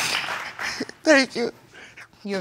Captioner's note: sobbing